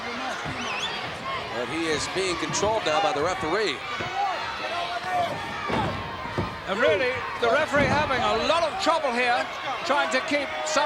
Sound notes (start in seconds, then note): 5.6 body slams; 8.0 body slams